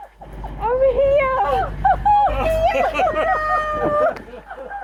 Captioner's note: laughter